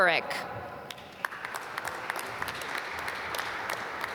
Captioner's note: applause